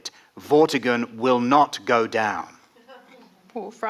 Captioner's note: none